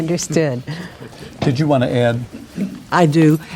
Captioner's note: laughing